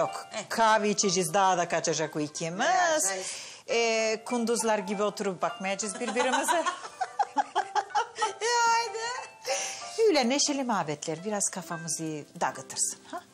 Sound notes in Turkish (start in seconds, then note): 5.9 Gülüyorlar; 6.0 Gülüyor